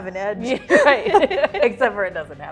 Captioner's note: all laughing